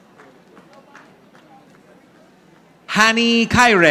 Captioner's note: audience applauding